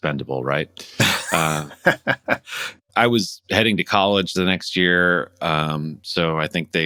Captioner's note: laughter